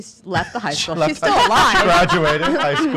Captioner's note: laughing